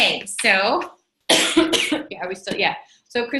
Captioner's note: coughs